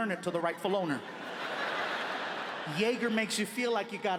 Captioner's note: audience laughing